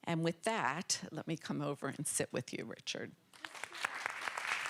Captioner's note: applause